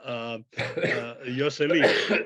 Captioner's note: coughing